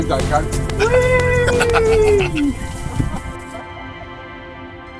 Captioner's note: laughter